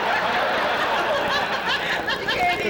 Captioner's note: laughter